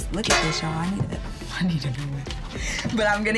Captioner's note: laughs